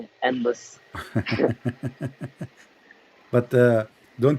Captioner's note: Ketawa